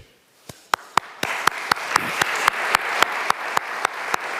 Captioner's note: audience applauding